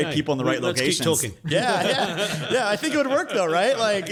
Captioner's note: host laughs